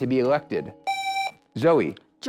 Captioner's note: buzzer